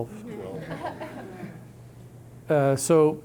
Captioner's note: audience laughing